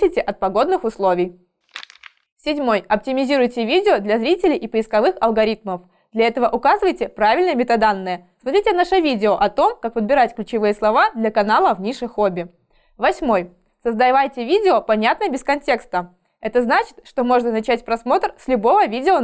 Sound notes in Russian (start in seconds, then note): 1.7 Звук переворачивающейся страницы